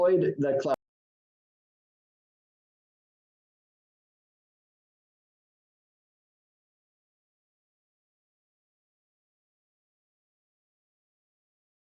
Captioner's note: silence